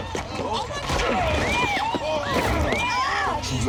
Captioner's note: groaning